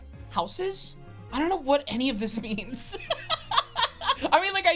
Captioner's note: laughs